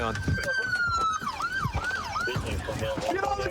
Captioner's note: sirens wailing